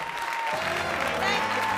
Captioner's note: applause